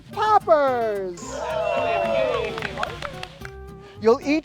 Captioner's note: campers cheering